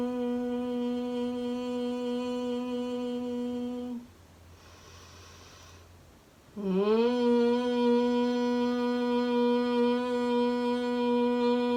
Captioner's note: exhale humming bee sound